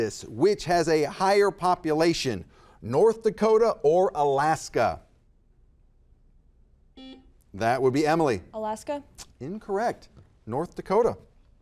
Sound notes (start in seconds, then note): 7.0 buzzer buzzes